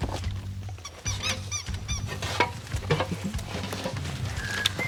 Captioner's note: dog toy squeaks